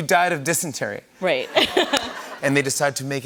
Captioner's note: laughter